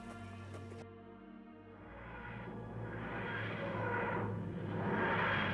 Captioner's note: TARDIS landing